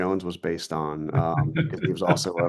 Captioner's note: laughing